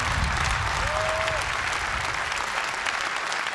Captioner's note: cheers and applause